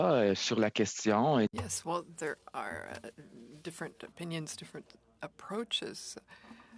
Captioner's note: speaking French